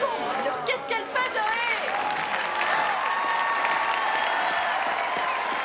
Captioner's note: clapping and cheering